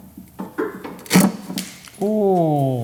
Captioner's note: cutters crunch